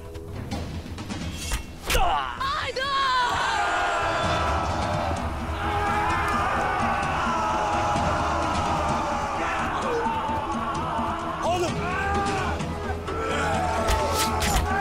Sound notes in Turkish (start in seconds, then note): 3.8 Bağırma Sesleri